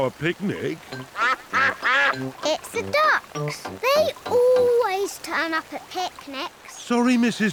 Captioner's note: quacks